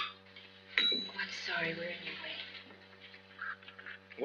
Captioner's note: housemaid rings bell